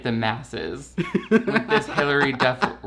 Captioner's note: laughs